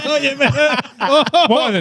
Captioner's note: laughing